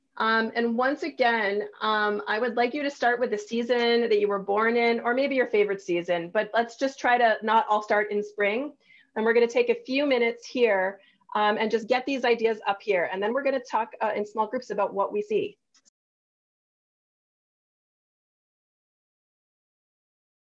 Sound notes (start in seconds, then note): 15.4 no audio present